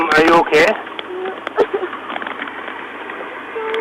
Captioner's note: crying